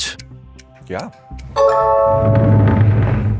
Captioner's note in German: Klingeln